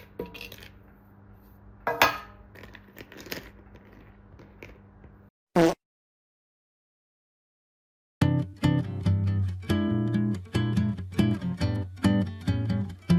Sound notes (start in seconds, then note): 1.8 clank